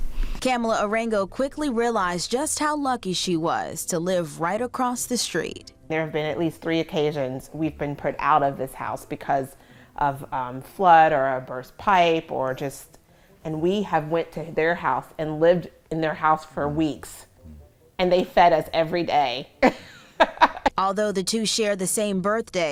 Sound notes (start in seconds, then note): 19.6 laughs